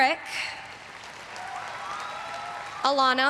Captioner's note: everyone cheering and applauding